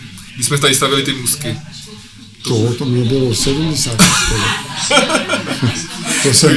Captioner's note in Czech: smích